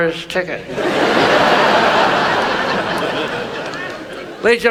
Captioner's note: audience laughs